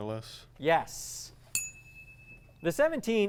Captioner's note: ding